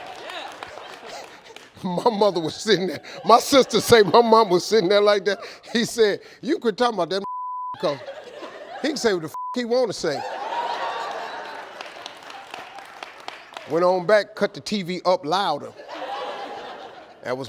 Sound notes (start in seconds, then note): 7.2 beep; 9.3 beep; 10.0 audience laughing; 15.7 audience laughing